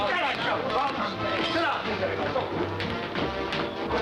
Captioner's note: clamoring